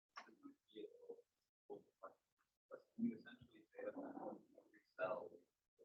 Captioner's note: participant faintly speaking